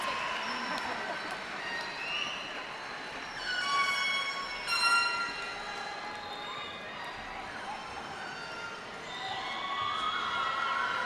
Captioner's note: cheers and applause